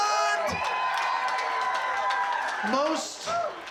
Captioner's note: crowd cheering, clapping